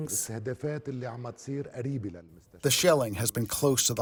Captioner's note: through translator